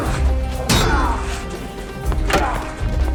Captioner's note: grunting